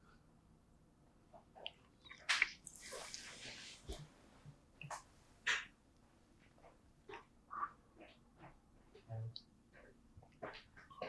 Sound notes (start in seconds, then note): 6.1 drinking; 9.1 pauses 31 seconds